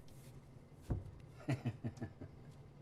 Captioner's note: laughing